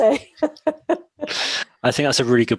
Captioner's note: laughs